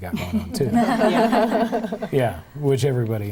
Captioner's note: laughing